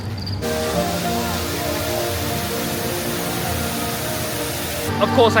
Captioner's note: bright music; water whooshing